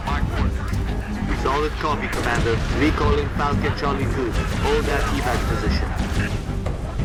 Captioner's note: radio